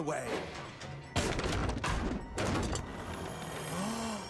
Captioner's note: clattering